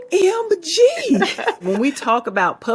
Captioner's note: both laughing